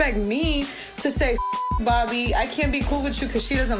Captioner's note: beep